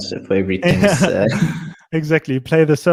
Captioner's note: group laughs